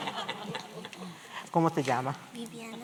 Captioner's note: spanish